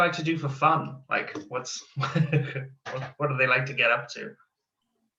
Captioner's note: laughs